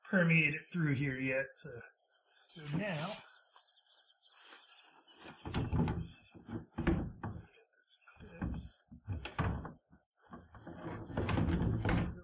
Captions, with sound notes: permeated through here yet. So now, so now (plastic rubbing)